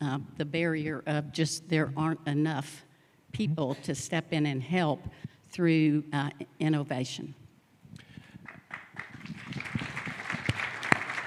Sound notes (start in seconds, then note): 8.4 applause